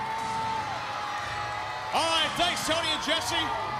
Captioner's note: crowd chatter